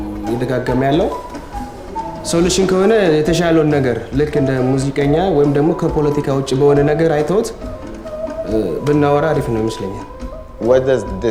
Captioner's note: Arabic 00:09:22